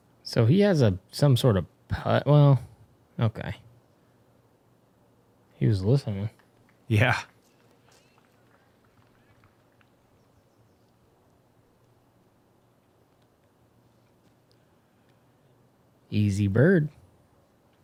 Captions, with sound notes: He has some putt-- well, okay. He was whistling. Yes. [silence] Easy bird.